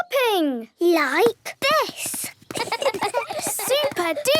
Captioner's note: laughs